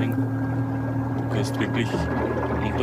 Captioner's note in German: Motorensurren